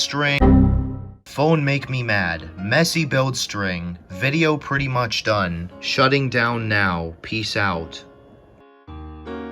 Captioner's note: speaking like a caveman